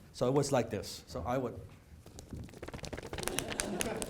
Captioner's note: paper flapping; audience laughing